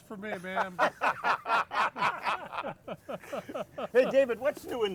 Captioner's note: all laughing